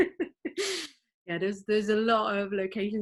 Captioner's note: laughs